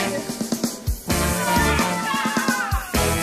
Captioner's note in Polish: krzyki